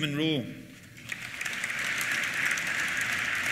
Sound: applause

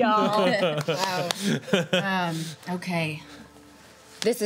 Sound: laughing

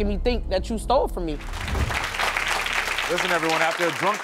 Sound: audience applauding

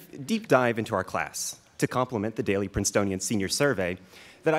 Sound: none

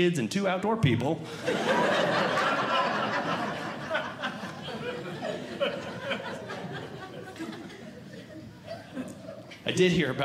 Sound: audience Laughing

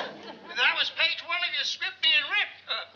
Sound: on phone

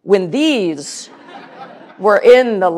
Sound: laughter

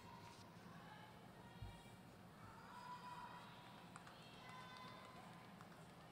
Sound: audience members shouting

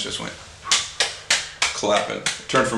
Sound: clapping hands

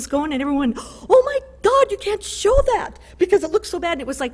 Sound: gasp

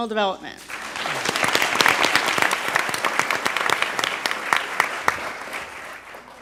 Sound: applause

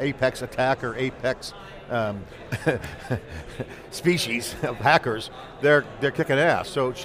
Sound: chuckles

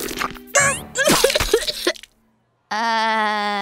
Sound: coughing

